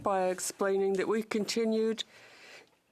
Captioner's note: speaking French